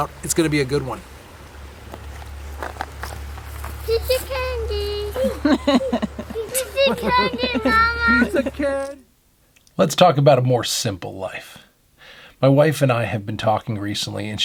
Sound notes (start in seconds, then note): 4.8 woman laughing